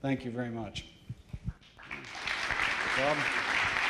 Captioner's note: applause